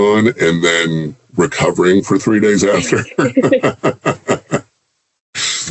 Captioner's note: laughs